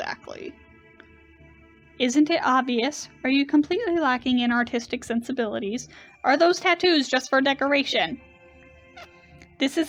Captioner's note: agitated